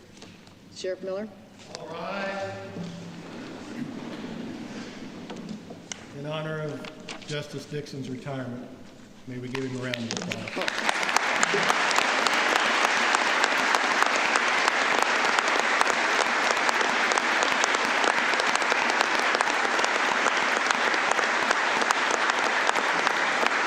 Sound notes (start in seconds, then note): 13.1 applause